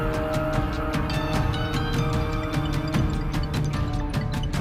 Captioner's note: Cell phone rings